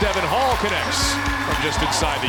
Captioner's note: cheering